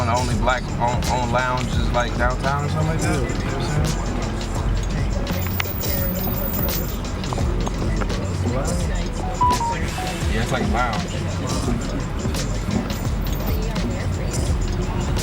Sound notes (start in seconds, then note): 9.3 phone beeps; 12.6 chill music